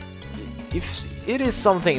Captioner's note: sighs